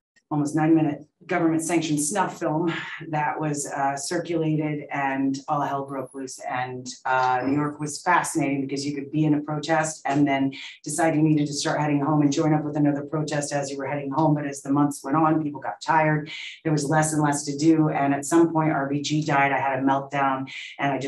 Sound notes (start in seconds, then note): none